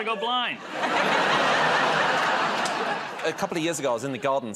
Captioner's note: laughter